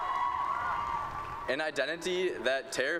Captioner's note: cheering